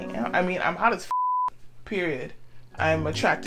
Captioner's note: beep